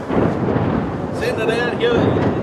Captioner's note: thunder cracking